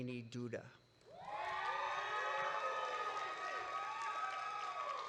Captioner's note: audience cheering